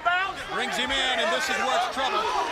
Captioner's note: crowd chatter